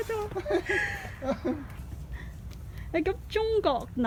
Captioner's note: laughing